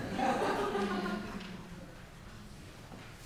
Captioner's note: audience laughing; giggling